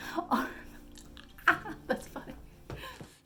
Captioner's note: muffled witch cackle